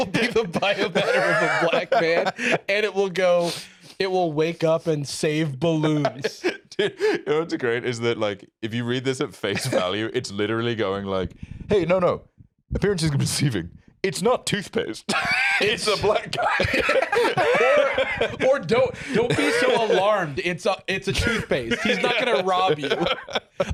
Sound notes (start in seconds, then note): 15.1 both laugh